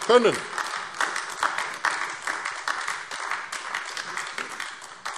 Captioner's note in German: Beifall AfD